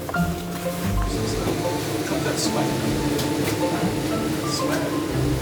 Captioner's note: people chattering